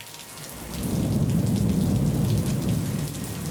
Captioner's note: rain splatters; thunder rumbles